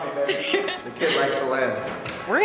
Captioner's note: laughs